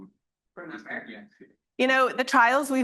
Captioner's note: student speaks faintly